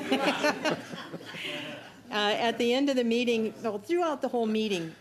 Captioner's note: laughter